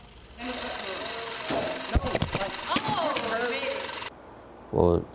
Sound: mechanical whirring

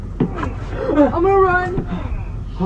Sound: bat slams; the Man grunts

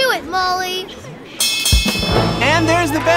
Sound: bell rings

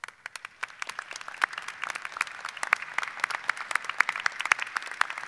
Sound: audience applauding

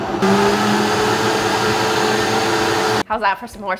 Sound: blender blends

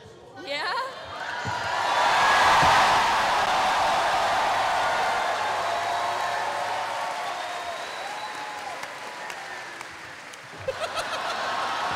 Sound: cheering

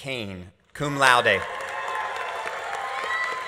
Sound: audience applauding; audience cheering

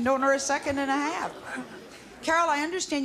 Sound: laughing

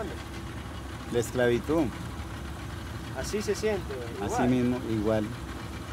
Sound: speaking in foreign language

